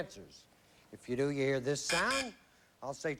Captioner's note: buzz buzz